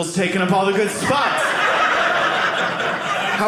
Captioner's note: audience laughing